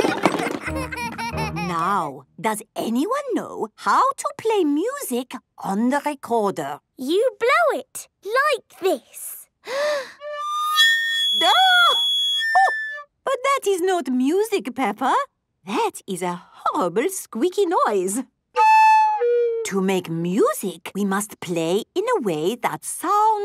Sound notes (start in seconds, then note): 0.0 laughter; 9.1 off-key; 9.6 inhaling deeply